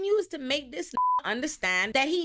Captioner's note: beep